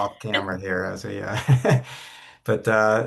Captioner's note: chuckles